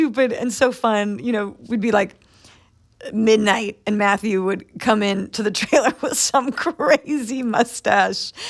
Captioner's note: laughter